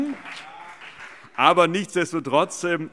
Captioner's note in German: Beifall